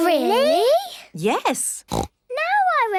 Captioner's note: snorts